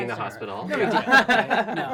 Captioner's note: laughs